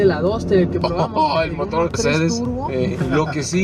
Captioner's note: laughter